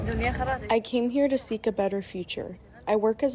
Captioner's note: through translator